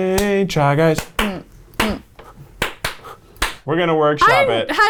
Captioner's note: clapping